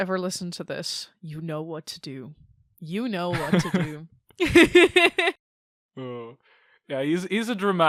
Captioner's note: both laugh